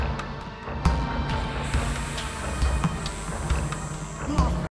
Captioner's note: snake hissing